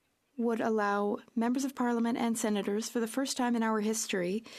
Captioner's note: speaking French